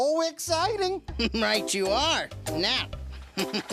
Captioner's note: chuckling